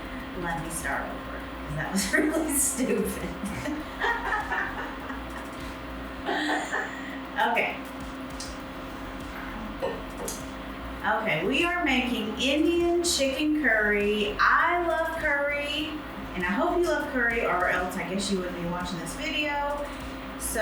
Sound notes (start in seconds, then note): 2.8 laughs